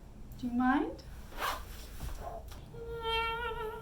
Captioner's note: aggressive zippage